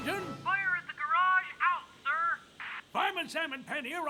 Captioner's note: on Radio